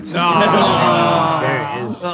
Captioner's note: people in room moaning